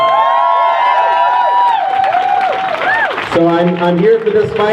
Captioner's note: crowd cheers